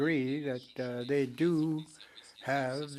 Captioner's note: speaking french